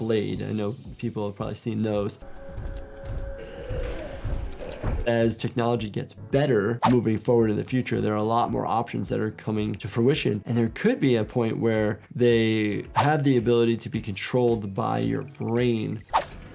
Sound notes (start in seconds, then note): 1.8 suspenseful music; 3.2 creature groaning and stomping; 6.8 graphics swishing; 12.8 graphics swishing; 16.0 graphics swishing